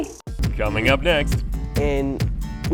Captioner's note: male Voice